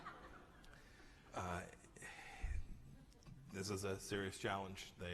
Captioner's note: laughter